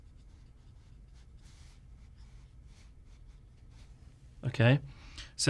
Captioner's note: writing